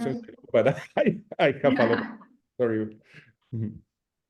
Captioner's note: laughs